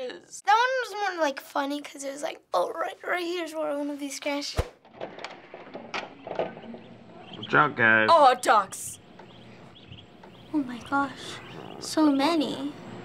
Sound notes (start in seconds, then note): 4.8 door creaking open